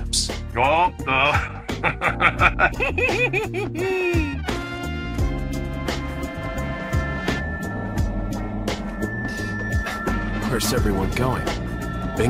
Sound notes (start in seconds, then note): 1.0 evil giggling; 1.0 sounds of getting the joke